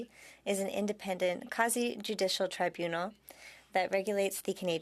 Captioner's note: speaking French